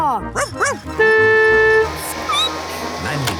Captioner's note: barking; squeaking; honking